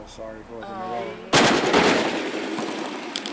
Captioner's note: car crash